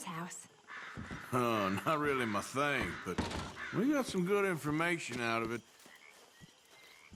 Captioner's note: chuckles